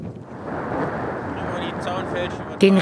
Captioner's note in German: Fernes Rauschen